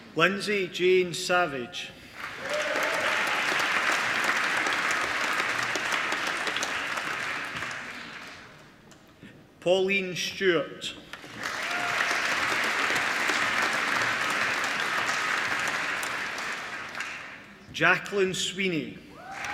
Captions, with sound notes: Lindsay Jane Savege (APPLAUSE) Pauline Stewart (APPLAUSE) Jaclyn Sweeney